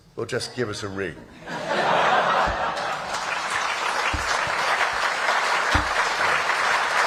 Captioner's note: applause